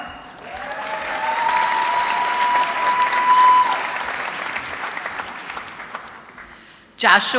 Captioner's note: applause